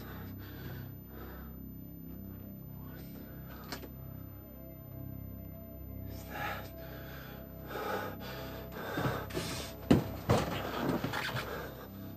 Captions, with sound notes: What the hell is that? (person breathing)